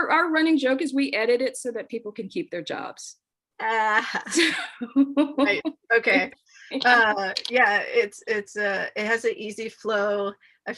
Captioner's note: laughs